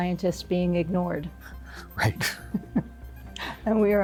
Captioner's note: chuckles